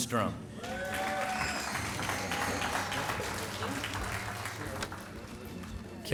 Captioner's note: applause